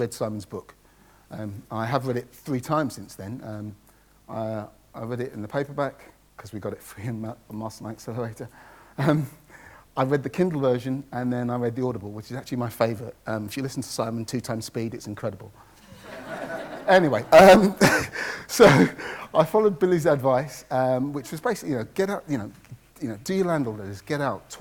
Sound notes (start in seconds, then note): 15.9 audience laughs